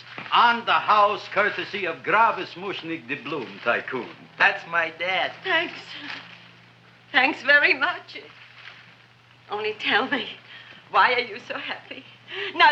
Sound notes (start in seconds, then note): none